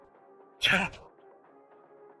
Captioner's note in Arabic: سعال